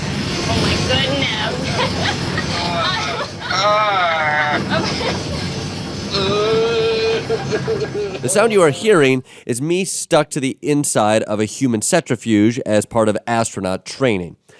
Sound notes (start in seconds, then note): 1.6 laughter; 2.9 Jordan groans; 6.5 Jordan whining